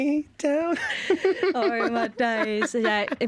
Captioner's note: laughter